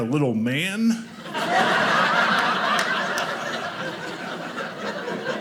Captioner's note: audience laughing